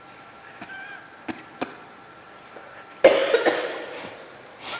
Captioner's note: coughs